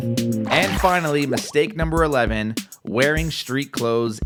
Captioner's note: water splashes